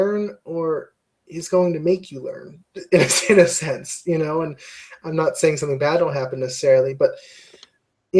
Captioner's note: laugh